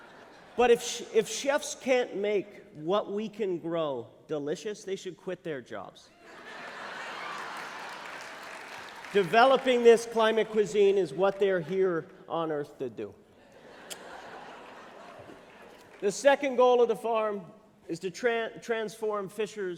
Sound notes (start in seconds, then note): 6.2 laughter; 13.4 laughter